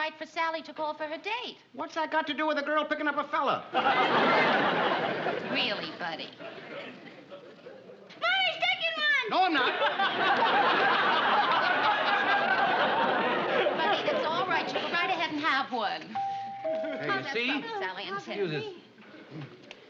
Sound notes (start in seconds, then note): 16.2 doorbell rings